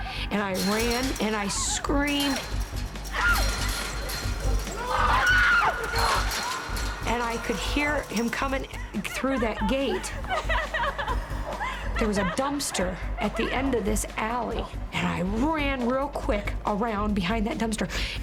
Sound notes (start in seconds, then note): 2.2 clinking; 3.2 screaming; 10.0 crying